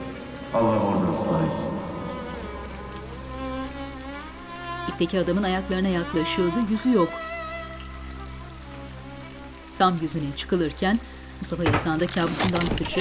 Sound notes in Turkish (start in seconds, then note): 1.8 Yağmur sesi; 2.3 Müzik - Gerilim